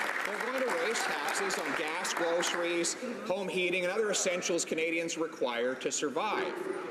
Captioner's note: some Applause